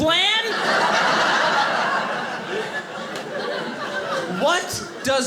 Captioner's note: audience laughing